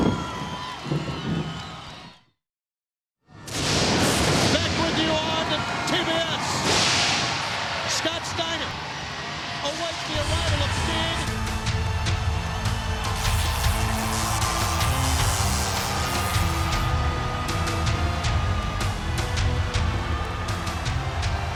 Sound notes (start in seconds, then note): 0.2 thunder booms; 11.7 ominous orchestral music; 14.1 electricity crackles